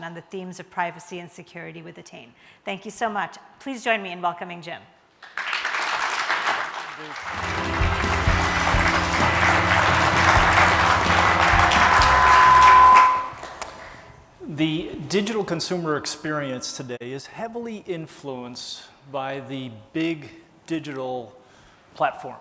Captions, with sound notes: on the themes of privacy and security with Attain. Thank you so much, please join me in welcoming Jim. (applause) (pop rock music) - The digital consumer experience today is heavily influenced by the big digital platforms.